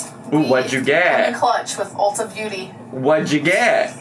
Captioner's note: laughs